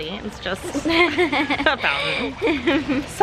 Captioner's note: laughs